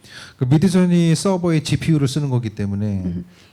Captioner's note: speaking korean